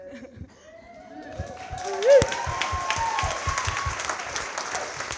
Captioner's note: all cheering and clapping